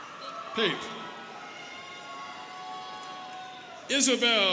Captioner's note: students cheering